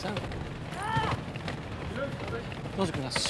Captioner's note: man screams